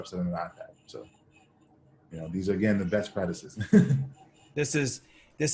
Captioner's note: laughs